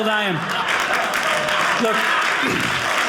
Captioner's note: audience cheering